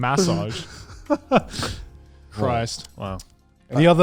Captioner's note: laughs